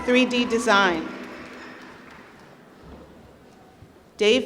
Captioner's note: applause